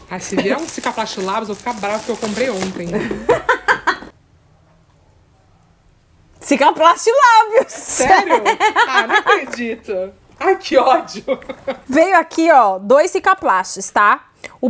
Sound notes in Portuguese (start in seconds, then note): 2.9 risos; 11.1 risos